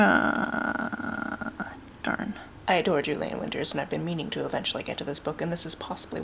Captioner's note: annoyed noise